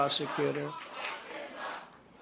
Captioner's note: applause